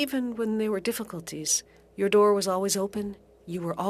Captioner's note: speaking French